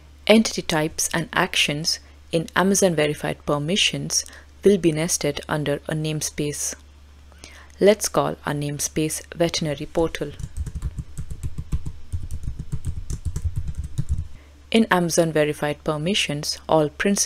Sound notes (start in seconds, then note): 10.2 keyboard clacking